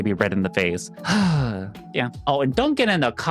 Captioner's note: sighs